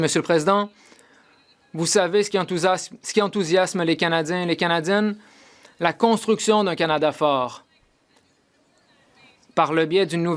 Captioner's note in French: voix de l'interprète